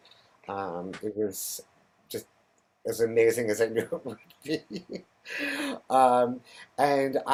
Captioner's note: laughs